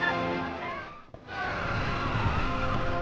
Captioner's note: people screaming